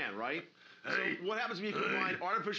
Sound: loudly grunting

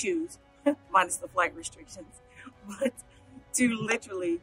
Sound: laughs

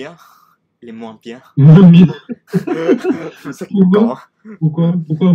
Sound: laugh

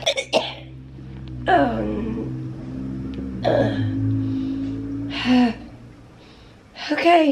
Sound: moaning and trying to catch her breath

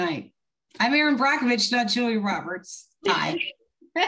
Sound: laughs

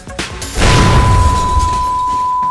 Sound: explosion; sustained beep

